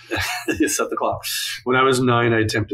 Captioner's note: laughs